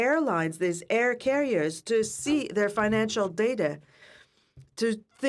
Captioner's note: speaking French